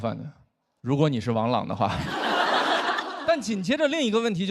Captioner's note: laughter